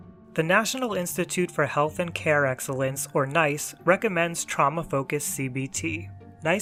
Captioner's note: none